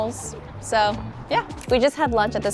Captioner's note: camera shutter clicks